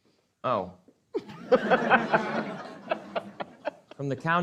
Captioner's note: audience laughing